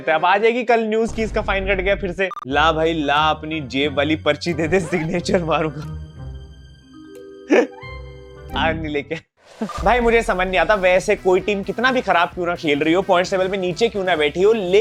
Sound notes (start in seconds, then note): 7.5 laughing